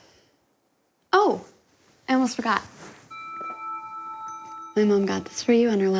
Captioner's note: bells chiming